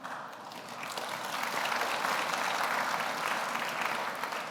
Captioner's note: audience applauds